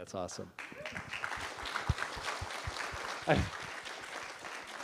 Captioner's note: applause